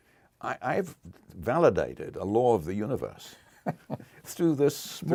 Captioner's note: laugh